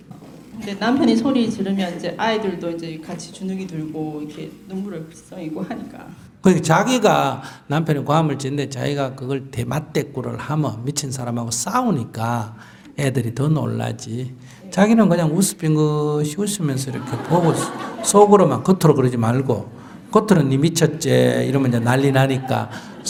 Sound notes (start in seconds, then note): 16.7 audience Laughter